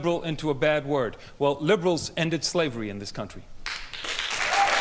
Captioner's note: audience Applause